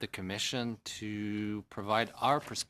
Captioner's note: speaking french